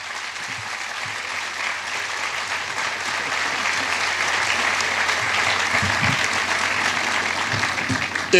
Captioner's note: applause